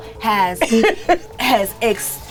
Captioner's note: laughs